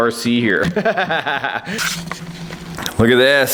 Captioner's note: laughter